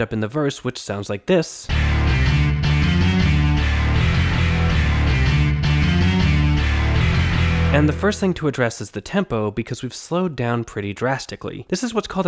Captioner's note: bang